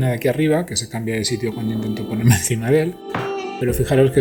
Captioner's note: laugh